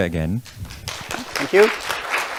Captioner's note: audience clapping